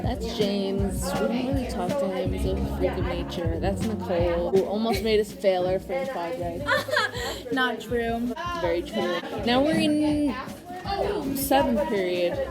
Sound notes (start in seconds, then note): 6.5 laughs